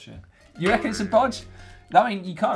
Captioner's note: spring twangs